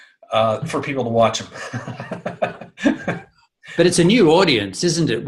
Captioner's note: laughing